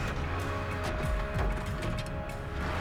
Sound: engine turns over

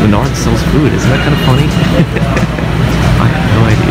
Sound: laughs

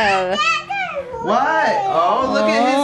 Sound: babbles

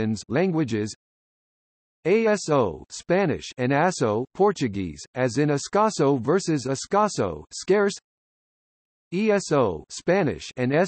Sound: Spanish

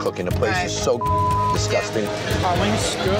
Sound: beeping

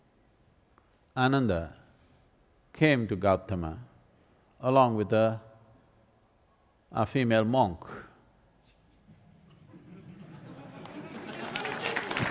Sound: laughter/Applause

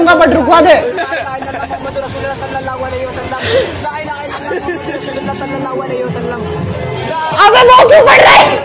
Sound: more aggressive prayers

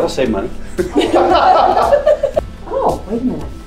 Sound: laughs

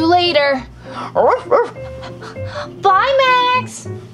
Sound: barking and panting

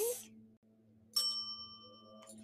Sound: bell dings

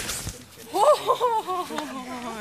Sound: chuckles

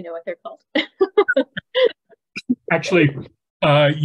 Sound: laughing

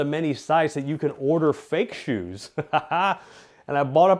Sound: laughing

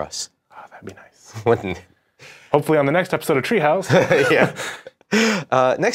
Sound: laughing

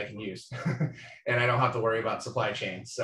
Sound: speaker laughing

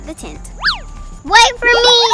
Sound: swish

